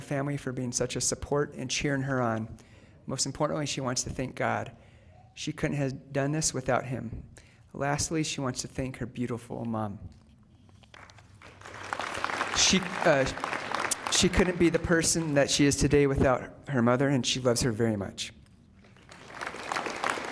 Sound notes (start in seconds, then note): 13.8 applause